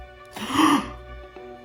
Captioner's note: le gasp